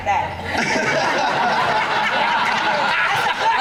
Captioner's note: laughing